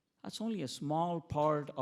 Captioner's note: none